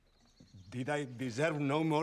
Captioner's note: none